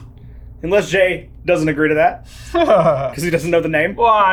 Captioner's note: laughs